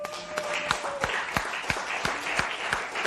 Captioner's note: applause